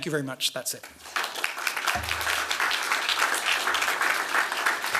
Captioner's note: applause